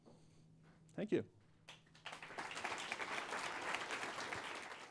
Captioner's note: applause